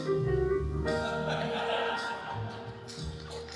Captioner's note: jazz piano continues; audience laughing